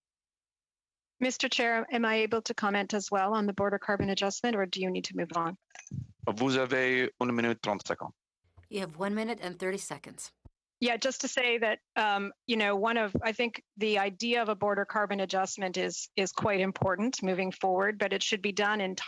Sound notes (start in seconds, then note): 15.9 speaking French